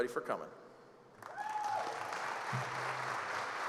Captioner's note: applause